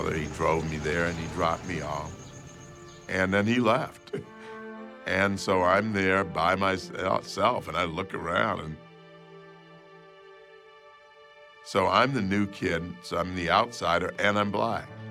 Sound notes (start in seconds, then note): 4.0 chuckles; 9.0 pensive music continues